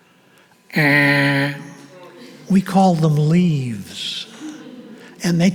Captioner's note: imitates buzzer